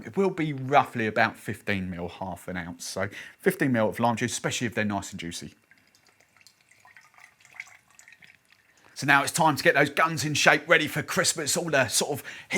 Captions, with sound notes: It will be roughly about 15 mil, half an ounce. So 15 mil of lime juice, especially if they're nice and juicy. (Juice trickling) So now it's time to get those guns in shape. Ready for Christmas, all that sort of